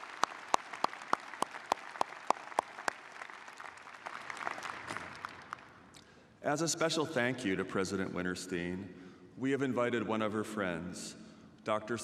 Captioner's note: applause